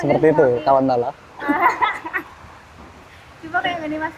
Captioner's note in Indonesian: ketawa